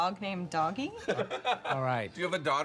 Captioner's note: man laughs